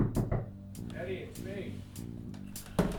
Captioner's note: knocking on door